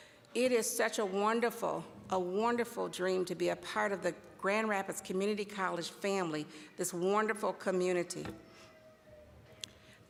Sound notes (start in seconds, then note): none